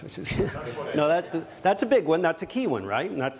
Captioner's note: chuckles